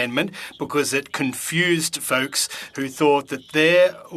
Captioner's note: speaking French